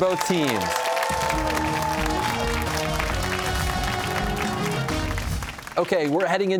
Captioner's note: cheers and applause